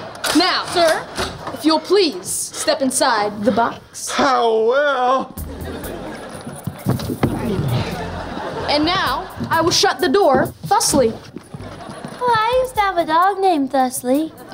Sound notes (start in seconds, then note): 5.3 laughing